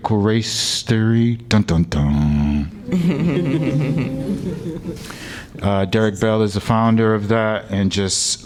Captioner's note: laughter